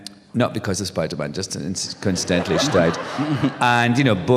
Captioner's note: laughter